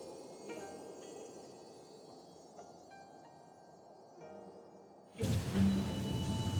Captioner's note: wind howling